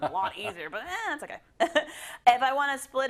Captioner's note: laugh